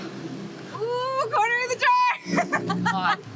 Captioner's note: laughs